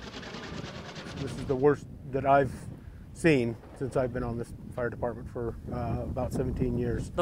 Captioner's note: helicopter nats